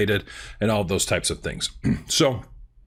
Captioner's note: clears throat